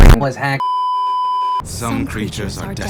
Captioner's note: beeeeeeeeeeeep